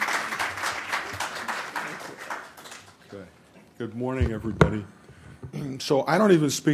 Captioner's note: applause